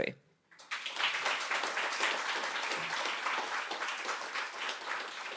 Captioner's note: audience clapping